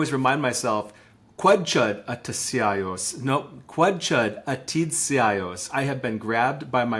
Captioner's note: speaking in Lushootseed language